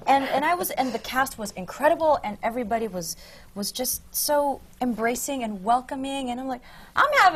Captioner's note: laughter